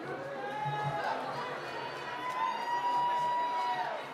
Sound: cheering

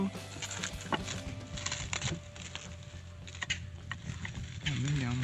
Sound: unwrapping sounds

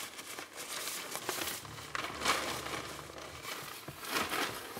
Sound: papers rustling

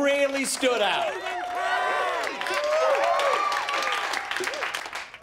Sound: cheering

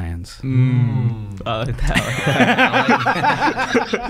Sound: laughing

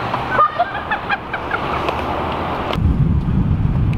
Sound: laughs

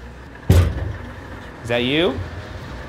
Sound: metal coffin thuds

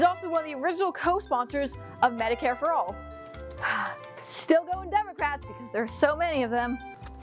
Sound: sigh

